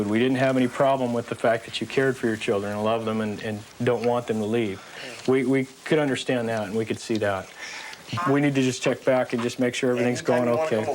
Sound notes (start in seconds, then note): none